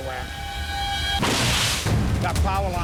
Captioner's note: electricity crackles